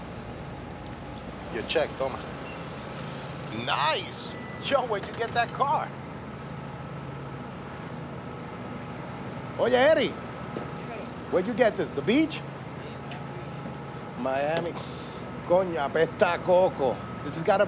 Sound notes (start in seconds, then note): 11.5 spanish; 14.8 sniffs; 15.9 spanish